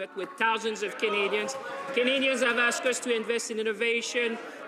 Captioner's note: some Applause